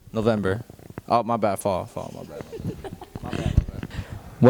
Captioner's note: laughing